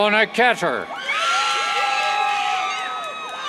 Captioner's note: cheers